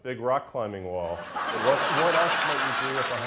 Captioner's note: laughter; applause